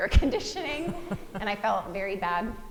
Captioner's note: laughing